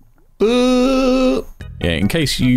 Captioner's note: scared noise